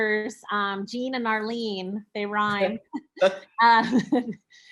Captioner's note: chuckling